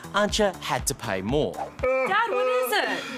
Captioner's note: sobs